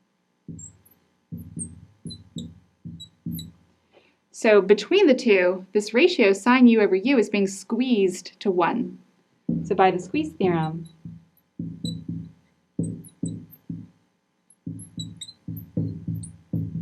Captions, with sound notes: (marker scratching) (marker knocking) So between the two, this ratio sine u over u is being squeezed to 1. So by the squeeze theorem, (marker scratching) (marker knocking)